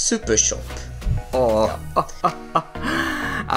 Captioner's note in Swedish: Skrattar